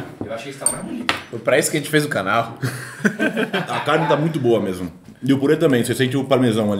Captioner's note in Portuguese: risos